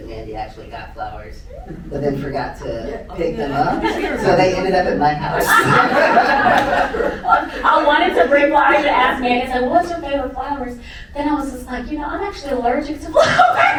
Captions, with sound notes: Mandy actually got flowers, but then forgot to pick them up, so they ended up at my house. (audience laughing) I wanted to bring flowers and I asked Mandy, I said, what's your favorite flowers? Then I was just like, I'm actually allergic to flowers.